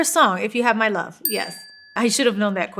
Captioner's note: bell dings